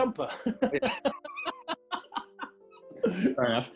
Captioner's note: laughing